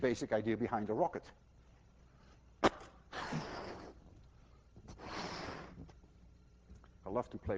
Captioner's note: huffing and puffing